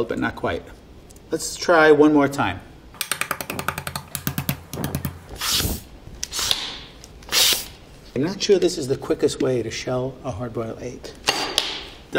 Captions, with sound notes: but not quite. Let's try one more time. [egg tapping] I'm not sure this is the quickest way to shell a hard boiled egg.